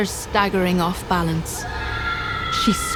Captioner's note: Neyrelle screams